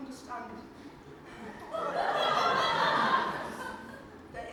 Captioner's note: audience laughs